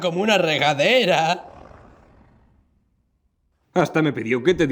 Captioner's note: Kaufmo growls